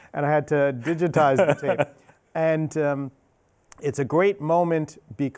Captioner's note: laughing